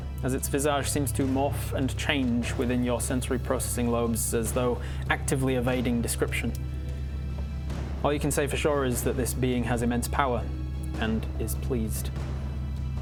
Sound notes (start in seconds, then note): none